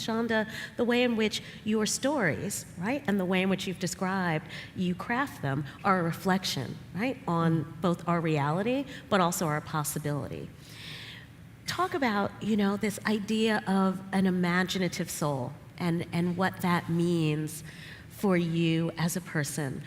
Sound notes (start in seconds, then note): none